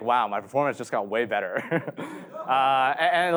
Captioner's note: chuckles